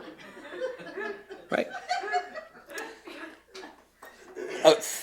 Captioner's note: laughter